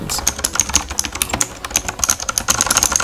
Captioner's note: keyboard sound test